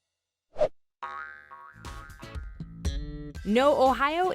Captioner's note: ball bouncing